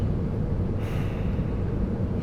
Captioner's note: sighs